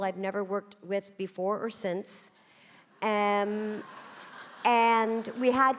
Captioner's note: audience laughing